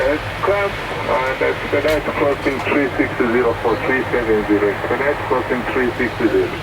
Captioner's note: person On Radio